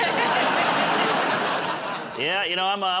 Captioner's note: laughter